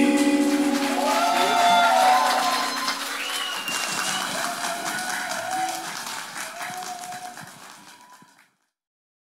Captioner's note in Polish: Aplauz